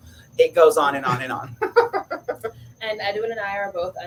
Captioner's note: laughs